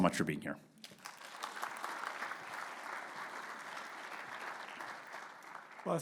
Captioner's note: audience clapping